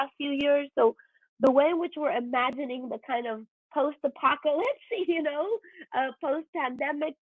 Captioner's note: chuckles